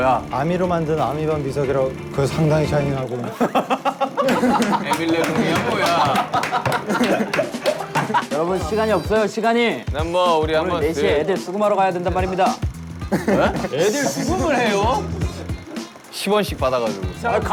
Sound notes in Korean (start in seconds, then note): 6.5 하하하하